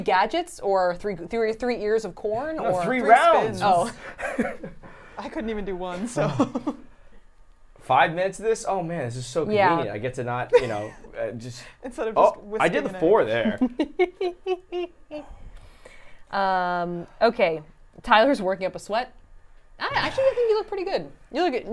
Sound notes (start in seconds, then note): 3.8 laughs; 7.7 laughs; 13.4 laughs